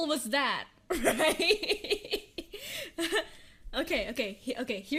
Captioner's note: nervous laughter